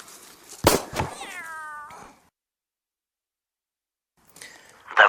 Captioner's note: pistol shot and cat meow